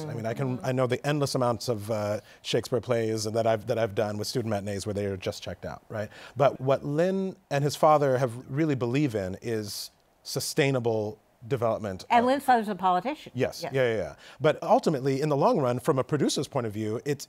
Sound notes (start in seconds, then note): none